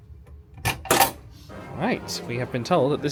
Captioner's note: latch clicks